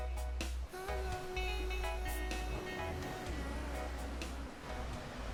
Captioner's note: waves continue crashing